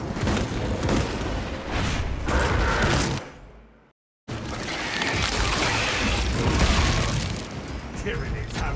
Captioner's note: gunfire